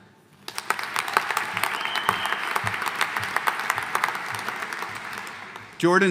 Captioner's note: audience applauding; audience cheering